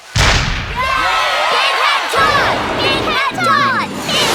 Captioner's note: blast; cheering and chanting